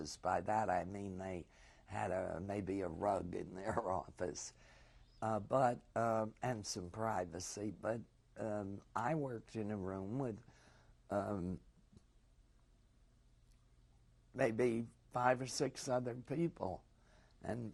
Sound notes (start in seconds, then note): 11.5 pauses for 3 seconds